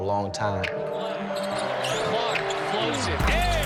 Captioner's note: shoes screeching; intense hip hop music